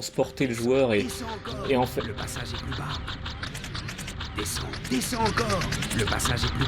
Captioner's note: sound of helicopter and a faint voice